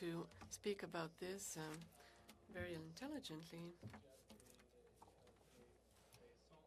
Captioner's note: speaking French